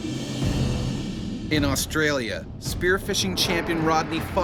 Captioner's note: voiceover